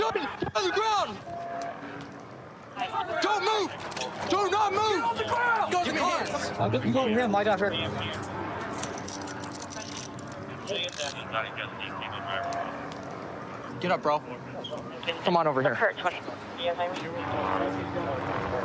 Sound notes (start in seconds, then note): 10.4 dispatch chatter